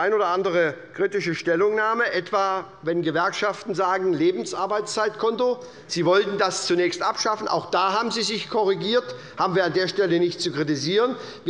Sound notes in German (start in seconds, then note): none